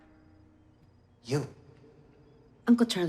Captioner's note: voice echoes